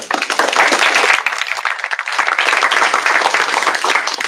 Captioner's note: applause